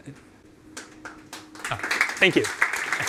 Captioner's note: applause